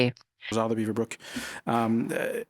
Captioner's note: speaking in French